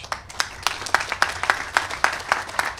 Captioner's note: applause